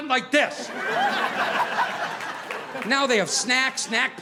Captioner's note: audience laughing